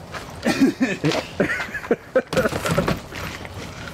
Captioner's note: all laughing